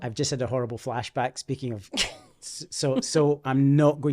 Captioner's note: laughing